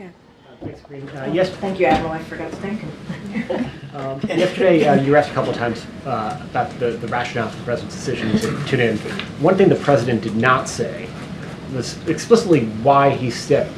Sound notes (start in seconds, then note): 3.1 laughs